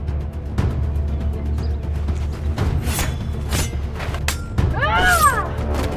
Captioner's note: screams